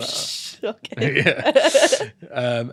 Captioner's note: laughing